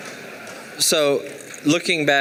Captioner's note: laughing and clapping